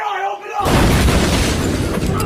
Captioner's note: smash